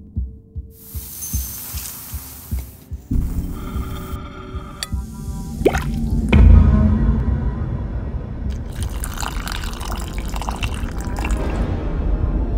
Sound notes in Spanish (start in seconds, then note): 0.0 repiqueteo de cuenco; 8.5 vertido de líquido